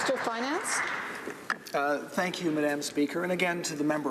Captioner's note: some applause